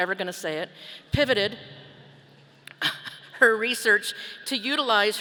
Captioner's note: chuckles